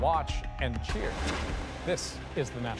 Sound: cheers and Applause

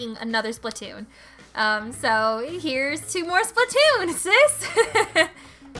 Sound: laughs

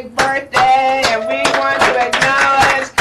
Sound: applauds

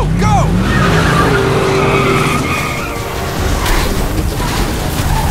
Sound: tires screeching; dramatic music

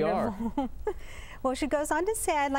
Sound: laughter

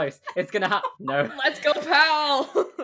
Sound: laughing

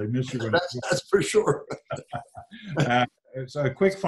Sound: laughs

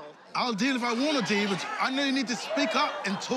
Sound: imitating British accent

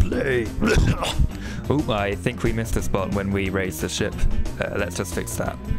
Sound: desperate gag

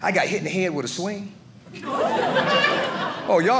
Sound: audience laughing

